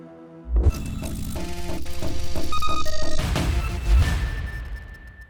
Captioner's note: technology squealing